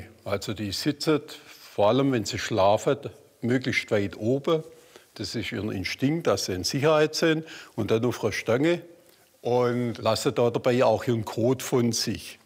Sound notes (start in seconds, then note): none